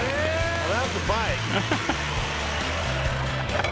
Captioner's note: laughs